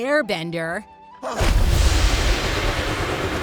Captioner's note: grunting